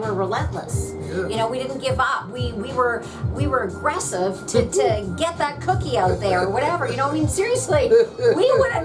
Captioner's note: laughs